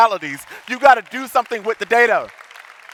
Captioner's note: audience applauding